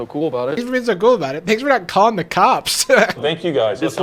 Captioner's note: laughs